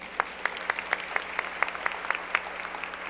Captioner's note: applause